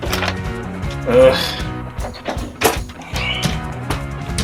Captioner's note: thwarted "ugh!"